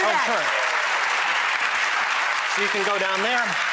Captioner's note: audience applauding